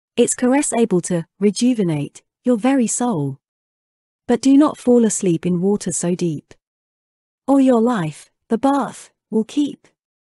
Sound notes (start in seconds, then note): none